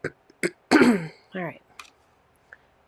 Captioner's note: clears throat